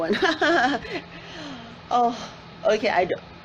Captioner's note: laughs